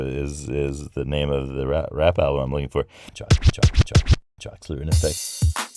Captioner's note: hip hop record scratch; hip hop beats